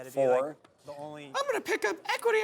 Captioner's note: high pitched voice